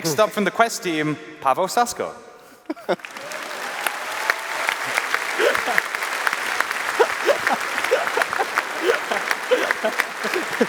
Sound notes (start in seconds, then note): 2.9 applause; 7.3 chuckling